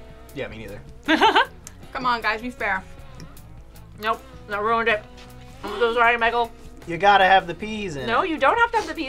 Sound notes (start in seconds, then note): 1.0 laughs